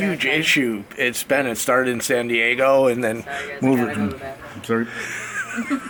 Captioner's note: laughs